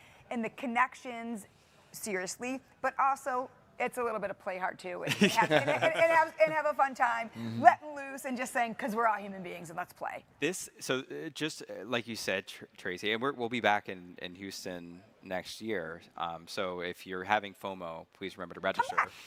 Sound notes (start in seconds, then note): 5.1 hosts chuckling